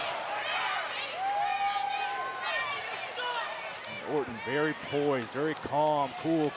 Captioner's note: applause